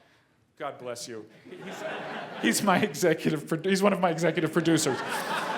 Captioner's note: laugh